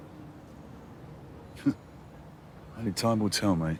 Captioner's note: he chuckles, softly